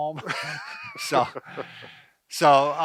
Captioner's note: laughs